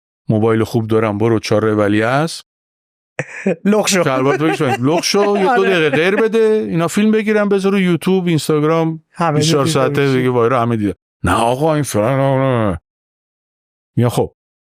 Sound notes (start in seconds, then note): 3.2 laughs